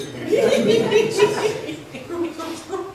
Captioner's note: laughs